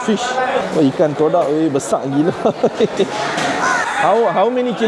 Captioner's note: laugh